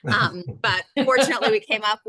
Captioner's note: laughing